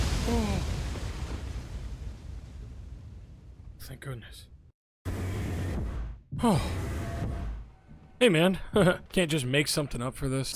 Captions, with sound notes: (sighs) Thank goodness. Oh! Hey, man. (laughs nervously) "You can't just make something up for this?